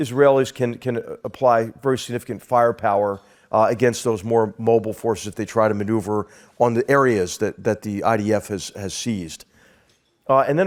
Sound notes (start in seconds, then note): none